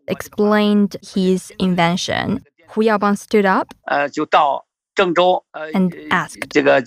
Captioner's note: speaking Mandarin